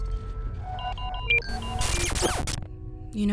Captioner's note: beeping intensifies